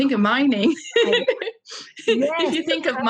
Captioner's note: laughing